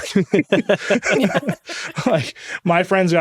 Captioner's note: all laughing